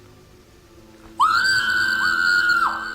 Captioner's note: screaming outside